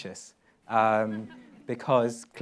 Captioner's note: laughs